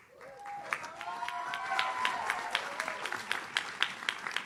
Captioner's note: audience cheers